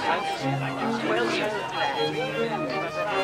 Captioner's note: indistinct chatter